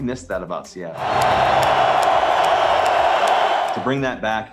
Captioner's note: crowd cheering